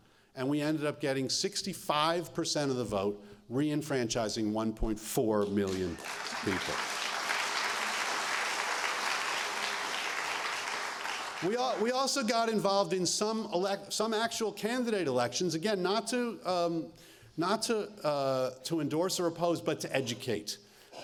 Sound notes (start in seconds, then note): 5.6 applause